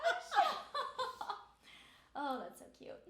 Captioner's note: laughing